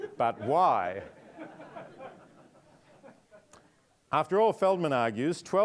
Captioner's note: audience laughing